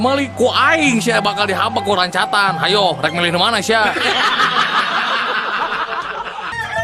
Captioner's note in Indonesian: tertawa